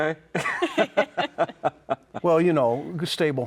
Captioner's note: laughing